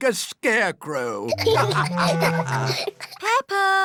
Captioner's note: laughter